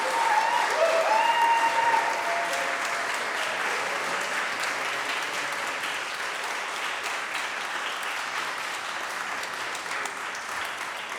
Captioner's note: applause